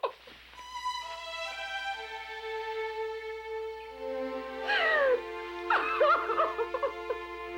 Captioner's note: sullen music; Jan sobbing